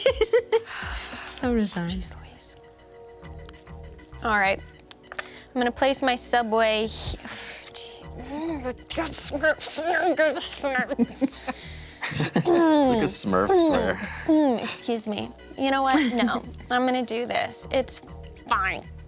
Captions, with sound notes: - So resigned. - Geez Louise! - All right. I'm gonna place my subway. (mumbles angrily) (everyone chuckles) - A smurf there. - Excuse me. You know what, no. I'm gonna do this. It's, fine.